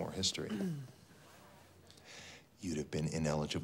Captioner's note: Spencer clears throat